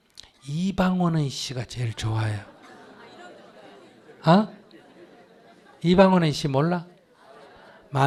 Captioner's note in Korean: 청중 웃음